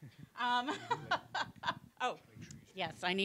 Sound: laughing

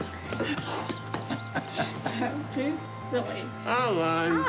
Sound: chuckles

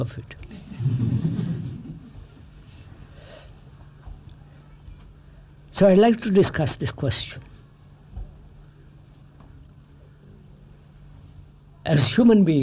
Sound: laughter

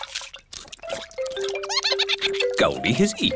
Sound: giggles

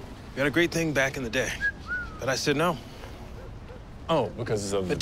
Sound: whistles

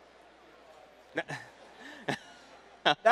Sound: chuckles

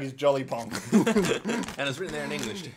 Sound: laughs

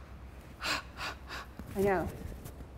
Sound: panting

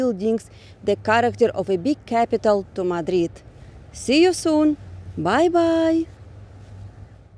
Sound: park noise

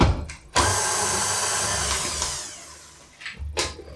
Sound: machine whizzin

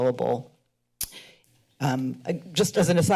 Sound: clicks tongue

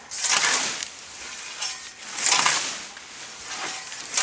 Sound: loud scraping

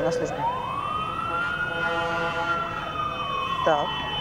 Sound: police sirens

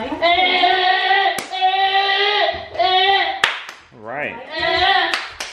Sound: claps; yells

